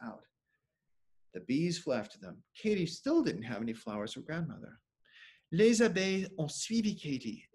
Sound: speaking French

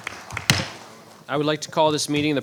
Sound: gavel banging

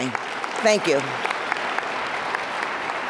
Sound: applause

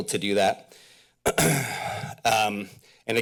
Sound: clears throat

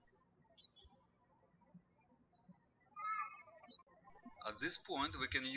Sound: birds chirping

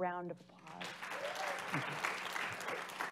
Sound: audience applauding

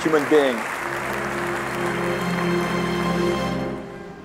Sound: applause

